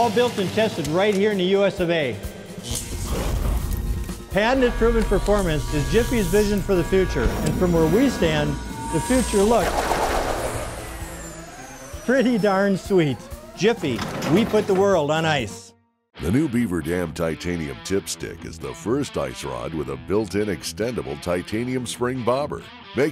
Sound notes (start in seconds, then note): 3.0 growling; 10.3 alarm buzzing